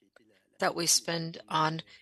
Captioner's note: speaking French